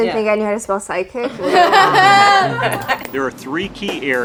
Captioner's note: group laughs